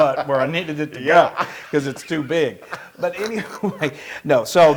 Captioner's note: laugh